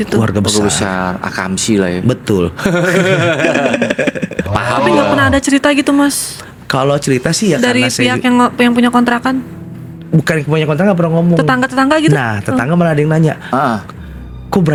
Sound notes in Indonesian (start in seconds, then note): 2.6 tertawa